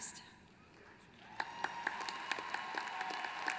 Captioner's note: applause